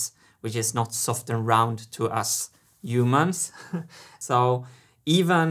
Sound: chuckles

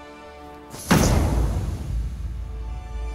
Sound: Masaya pounding sound

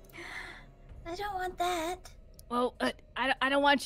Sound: gasps

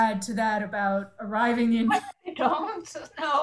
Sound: laughs

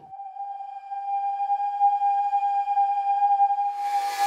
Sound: soft whistling; intense creepy music

